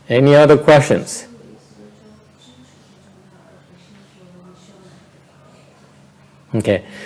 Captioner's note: silence